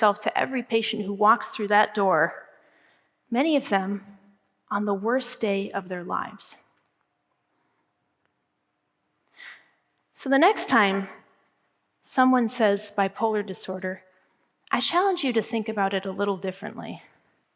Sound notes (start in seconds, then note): none